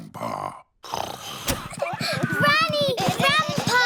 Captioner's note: snoring